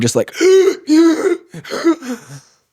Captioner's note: gasping